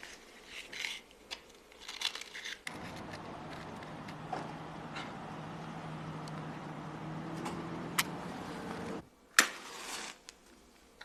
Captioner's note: draws out matchstick, strikes it